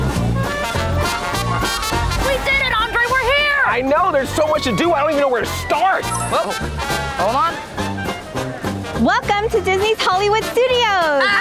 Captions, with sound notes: We did it, Andre, we're here! I know, there's so much to do I don't even know where to start! [RINGING] Whoa-- hold on. Welcome to Disney's Hollywood Studios!